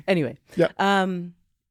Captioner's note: laughing